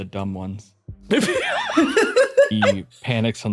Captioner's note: laughs